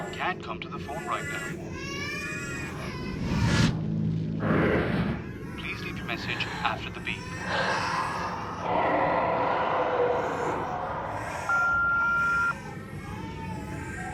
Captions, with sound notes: can't come to the phone right now. [Cries escalating] [Creature roars] Please leave your message after the beep. [Creature moans] [Voicemail service beeps]